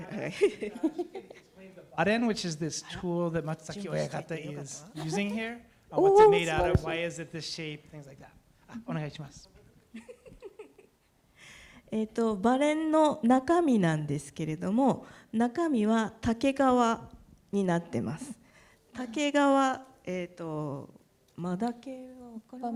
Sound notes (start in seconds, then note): 0.0 speaking japanese; 0.1 laughter; 3.7 speaking japanese; 8.7 speaking japanese; 9.9 laughter; 11.8 speaking japanese